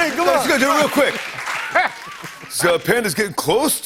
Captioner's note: laughs